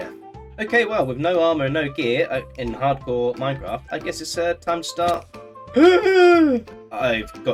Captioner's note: eugh!